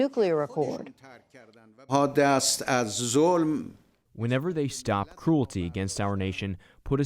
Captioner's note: through translator